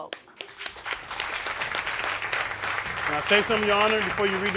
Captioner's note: audience clapping